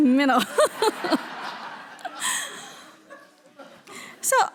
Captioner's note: all laughing